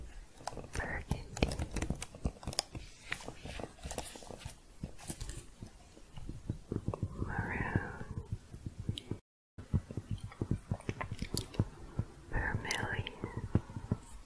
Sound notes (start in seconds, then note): 0.0 typing continues; 2.7 shuffling, then tapping; 9.6 tapping continues